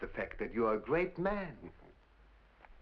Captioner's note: chuckles